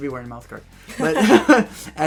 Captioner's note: laughter